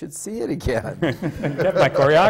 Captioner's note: laughter